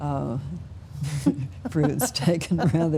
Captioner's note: both laughing